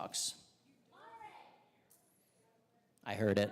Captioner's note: crowd shouting answers